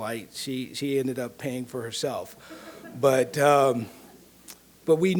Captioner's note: audience laughing